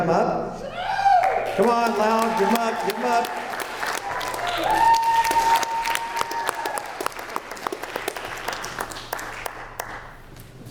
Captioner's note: applause